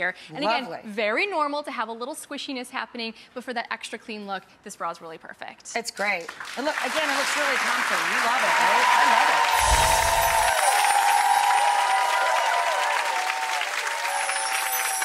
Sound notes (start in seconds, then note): 10.2 cheering; 11.0 chimes